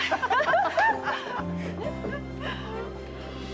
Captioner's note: all laughing